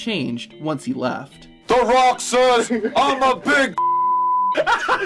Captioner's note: beep; hysterical laughing